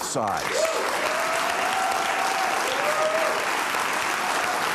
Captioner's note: audience applauding